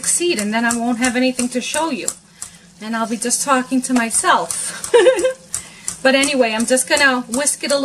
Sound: giggle

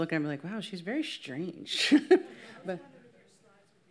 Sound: laughs

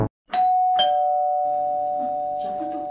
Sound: bell rings suddenly

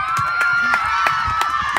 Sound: cheers

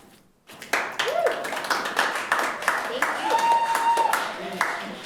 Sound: audience applauds

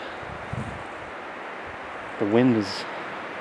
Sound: wind whooshing

